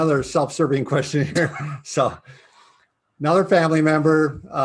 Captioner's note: laughing